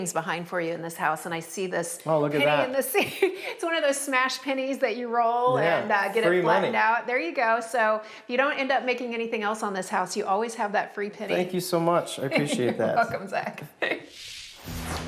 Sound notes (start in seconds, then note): 12.2 giggles